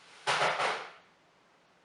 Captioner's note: something falled off